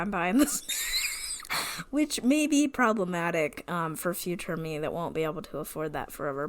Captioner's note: wheeze laughs